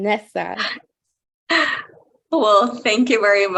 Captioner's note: chuckling